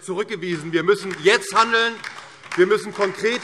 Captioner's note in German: Beifall DIE LINKE